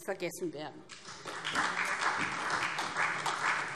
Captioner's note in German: Beifall SPD, Freie Demokraten und DIE LINKE